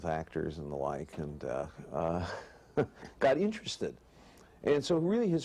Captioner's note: chuckles